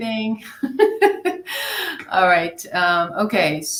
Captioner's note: laughs